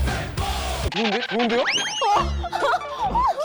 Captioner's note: squeak